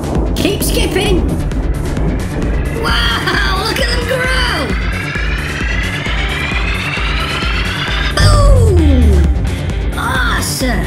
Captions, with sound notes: Keep skipping! Whoa! Look at them grow. [Swelling and rising noise] Boom! Awesome!